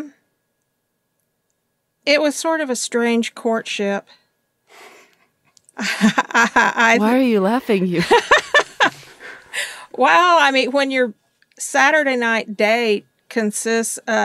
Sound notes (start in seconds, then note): 5.8 laugh; 7.9 laughs